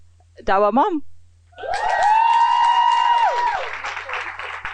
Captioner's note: applause